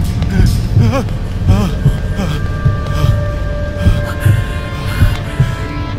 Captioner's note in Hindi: हांफते हुए